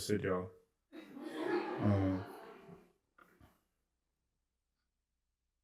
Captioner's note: laughter